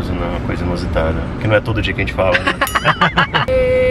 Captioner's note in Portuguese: risos